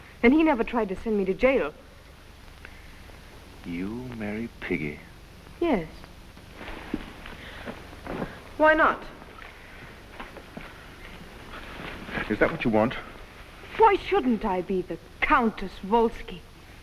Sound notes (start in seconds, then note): none